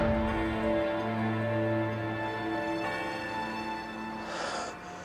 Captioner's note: <i> church bell tolling</i>; <i> exhales deeply</i>